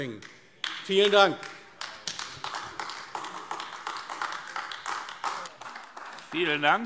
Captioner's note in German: Beifall AfD